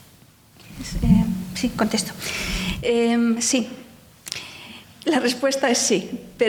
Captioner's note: speaking in foreign language